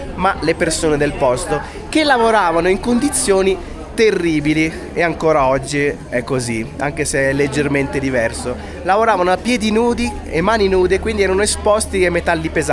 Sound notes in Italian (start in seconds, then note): none